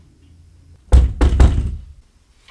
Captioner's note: knock